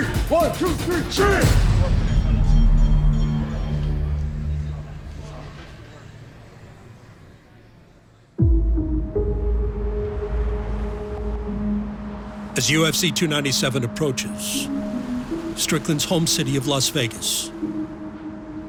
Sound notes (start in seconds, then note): 0.9 everybody in unison; 2.0 bell dinging faintly in background; 8.9 gentle music; 10.5 traffic whooshing